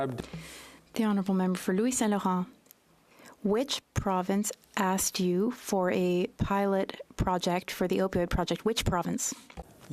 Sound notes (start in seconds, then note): 7.4 speaking French